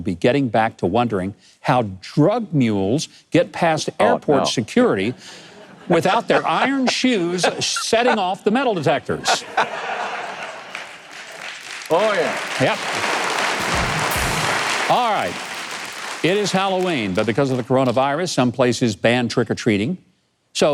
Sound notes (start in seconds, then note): 9.3 laughing; 13.6 audience clapping